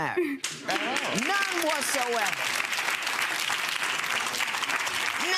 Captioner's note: crowd clapping